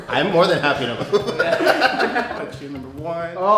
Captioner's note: everyone laughs